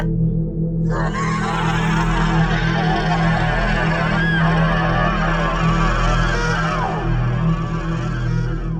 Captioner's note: screaming creature